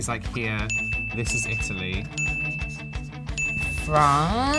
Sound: bell dings

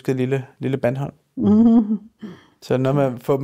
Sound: chuckles

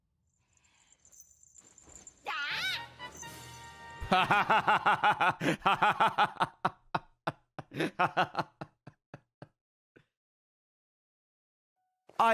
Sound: laughs

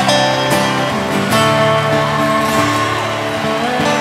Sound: crowd cheers

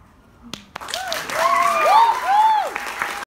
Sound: applause

